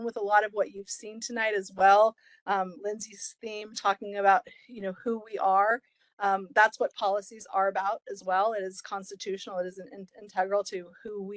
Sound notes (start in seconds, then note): none